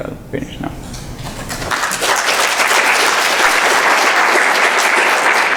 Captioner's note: applause